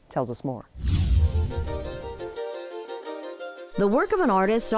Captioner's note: bright violin music; air whooshing